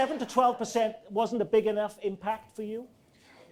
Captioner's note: audience laughing